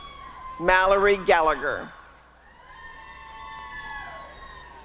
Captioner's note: applause and cheering